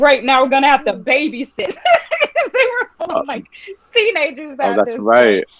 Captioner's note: laughing